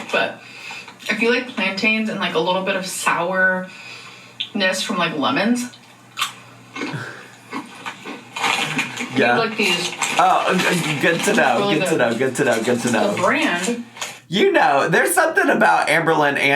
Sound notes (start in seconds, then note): 6.6 chews